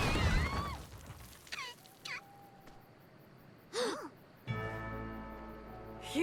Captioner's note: all scream; coughs